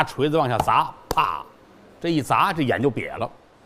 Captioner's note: smack!